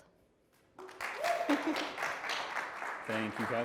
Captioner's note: applause